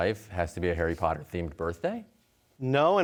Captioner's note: none